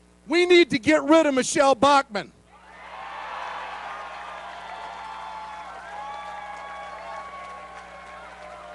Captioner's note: cheering